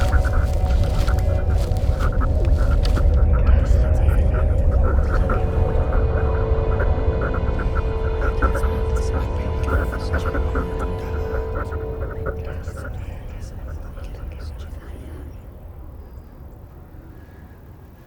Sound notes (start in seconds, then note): 11.5 space sounds fade; 14.0 Celtic voices fade